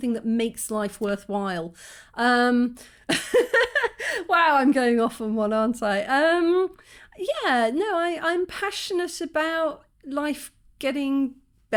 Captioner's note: laughing